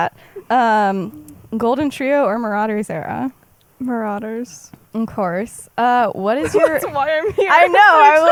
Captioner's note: laughs